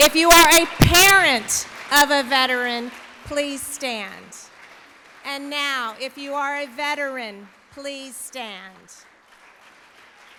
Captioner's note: applause